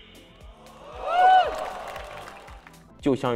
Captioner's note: cheers from the scene